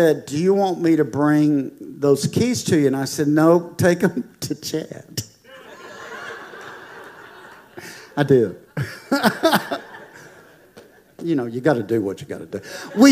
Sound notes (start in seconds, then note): 5.4 congregation laughing